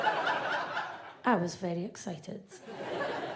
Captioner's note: audience laughs